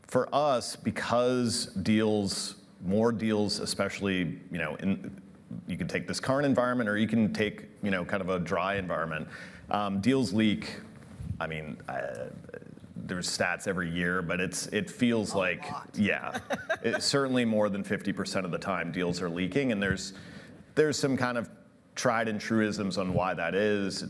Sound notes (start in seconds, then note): 16.1 laughing